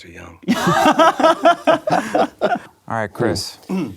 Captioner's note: laughing